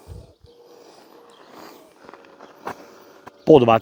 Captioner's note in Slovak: smrkanie